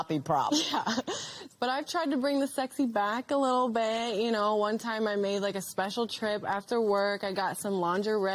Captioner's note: chuckling